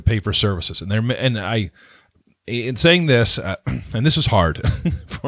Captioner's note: clears throat; laughs